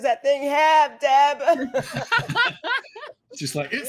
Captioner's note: actors laughing